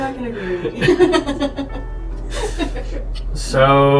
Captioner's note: laughter